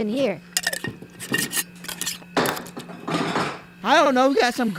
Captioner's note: banging and clanging